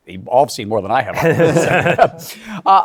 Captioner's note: laughter